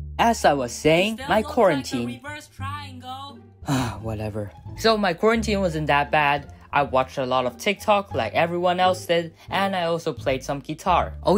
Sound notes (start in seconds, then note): 3.6 sigh